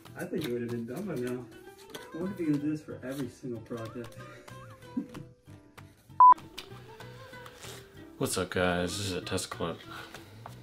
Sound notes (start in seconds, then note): 4.1 laughs; 6.2 beep; 7.5 takes breath